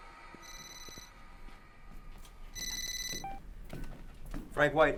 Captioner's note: telephone ringing